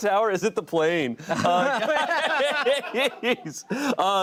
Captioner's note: laughter